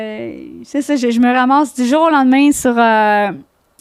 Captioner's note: in french